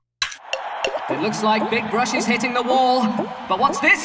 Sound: sports commentator style

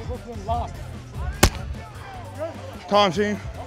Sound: punching noise

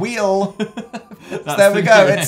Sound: laughing; laughs

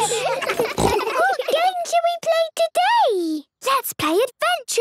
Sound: giggles, snorts

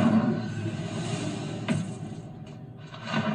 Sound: whooshing Sound; thud

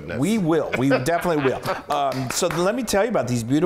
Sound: laugh; applause

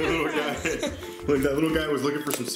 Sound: everybody laughing; laughs

